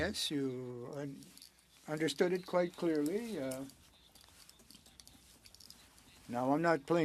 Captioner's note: speaking French